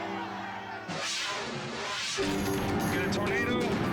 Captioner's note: air whooshes